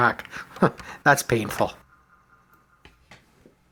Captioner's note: chuckles